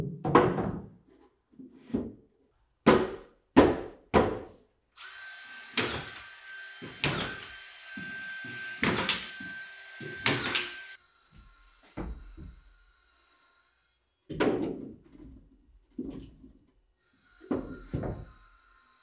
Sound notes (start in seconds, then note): 0.1 boards thumping; 5.0 nail gun whirring